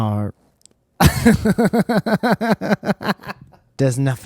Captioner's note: laughter